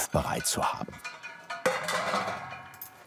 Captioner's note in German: Scheppern